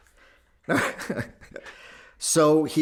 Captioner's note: laughing